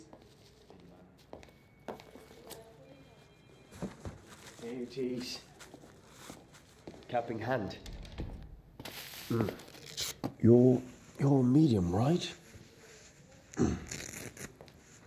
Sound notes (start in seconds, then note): 0.2 plastic wrapping and person approaching; 7.6 door closes